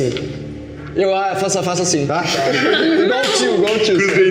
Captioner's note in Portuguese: risadas